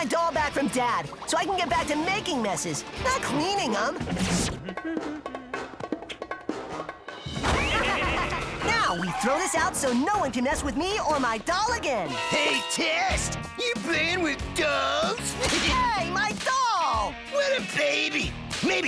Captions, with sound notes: BUT ON THE OTHER HAND, LOOK AT THIS KITCHEN! THE FLOOR'S SO CLEAN YOU COULD EAT OFF IT! HMM... (SIGHS) MAYBE I WAS TOO QUICK TO JUDGE DNA EXPERIMENTS. THESE DOLLS ARE A CLEANING REVELATION! YEAH, REVELATION FOR YOU BUT PAIN IN THE BUTT FOR US!